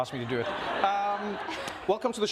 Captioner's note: audience laughs; Jennette laughs